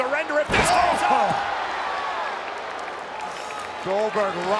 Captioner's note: applause